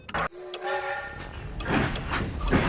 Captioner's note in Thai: เสียงหวูดรถไฟ; เสียงรถไฟฉึกฉัก